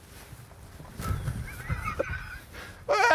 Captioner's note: laughs